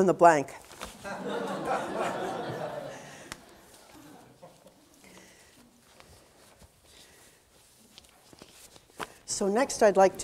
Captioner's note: audience laughter